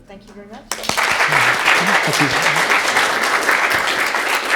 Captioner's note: audience laughing